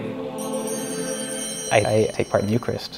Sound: bells chime

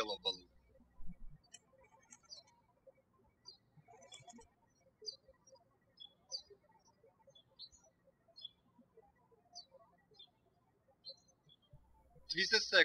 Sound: birds chirping

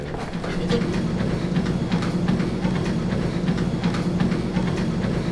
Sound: treadmill noise

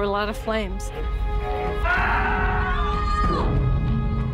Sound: screams

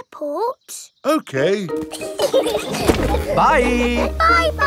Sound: laughing

